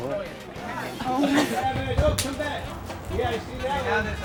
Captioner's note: men shouting